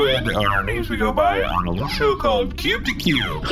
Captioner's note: chuckling